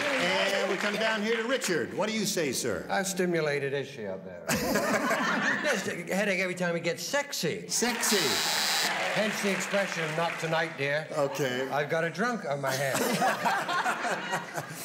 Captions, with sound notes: And we come down here to Richard. What do you say, sir? -How stimulated is she up there? (laughter) -Best take--a headache every time he gets sexy. -Sexy. (buzzer sounds) -Hence the expression, "Not tonight, dear." -Okay. -"I've got a drunk on my hand." (laughter)